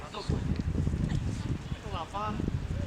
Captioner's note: wind gushing